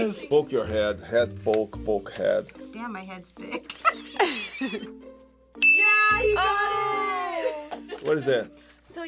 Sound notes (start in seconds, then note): 3.5 both laugh; 5.6 bell rings